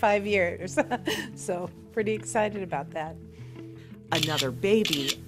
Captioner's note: laughs